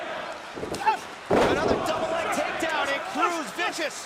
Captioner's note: crowd cheering